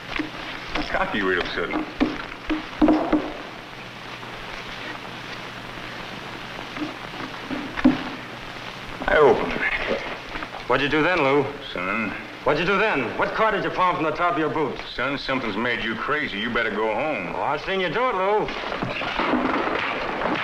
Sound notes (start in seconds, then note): 2.7 cards shuffling